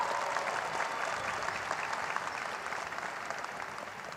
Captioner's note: cheers and applause